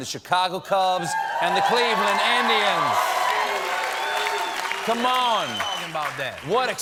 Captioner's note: cheers and applause